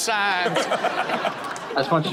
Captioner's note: all laughing